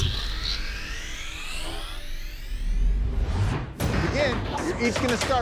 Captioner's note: electronic noise